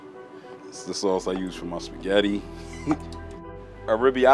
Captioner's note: laughing